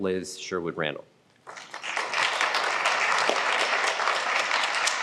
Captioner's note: applause